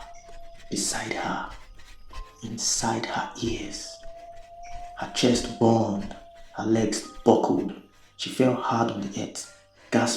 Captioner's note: whistle